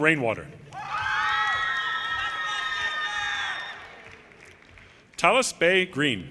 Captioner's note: audience cheers and applause